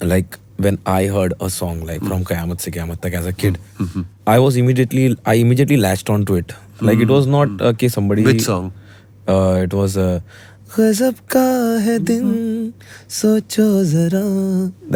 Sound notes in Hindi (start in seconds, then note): 3.5 गला साफ़ करने की आवाज़